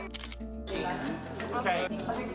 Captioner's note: camera click